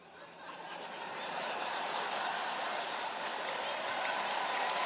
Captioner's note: laughter